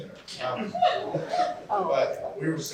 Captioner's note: laughter